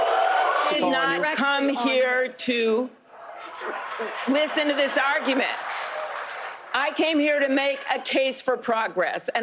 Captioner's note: cheers